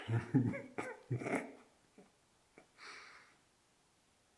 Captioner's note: Jacob laughing